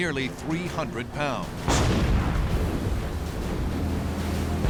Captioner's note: explosions